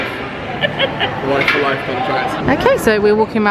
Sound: laughing

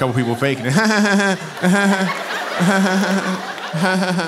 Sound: mimicking laughter

